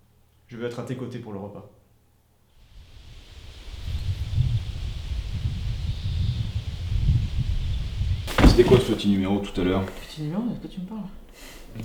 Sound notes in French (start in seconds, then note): 2.6 chants de cigales